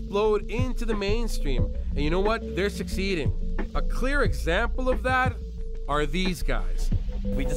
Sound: none

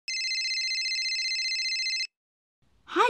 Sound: cell phone ringing

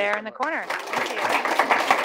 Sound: applause

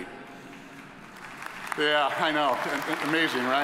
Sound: audience applauding

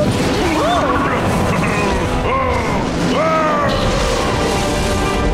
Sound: yelling

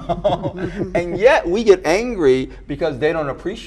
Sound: group chuckles

